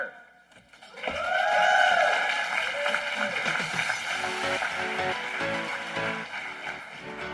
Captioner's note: applause